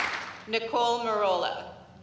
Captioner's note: applause